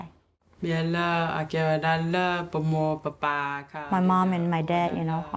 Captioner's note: speaking in foreign language